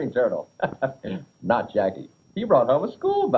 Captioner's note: chuckles